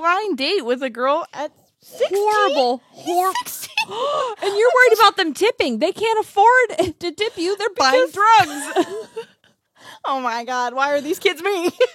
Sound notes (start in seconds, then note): 7.9 laughs